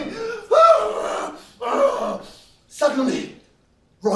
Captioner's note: grunts